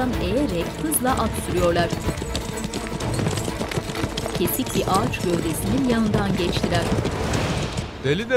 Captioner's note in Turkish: Atların sesleri